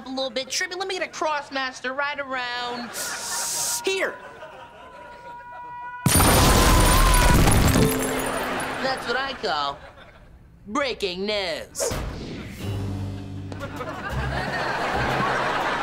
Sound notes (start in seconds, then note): 5.0 screaming; 5.7 thudding